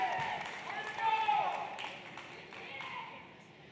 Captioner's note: applause